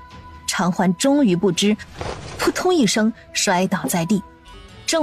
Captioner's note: thud